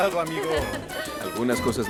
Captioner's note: Faith ríe